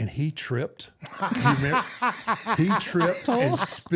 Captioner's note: R-Truth laughing